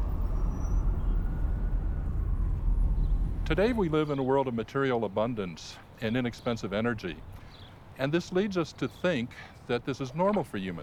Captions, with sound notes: [traffic hums] [siren wails] Today we live in a world of material abundance and inexpensive energy, and this leads us to think that this is normal for humans,